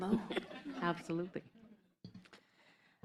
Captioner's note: laughter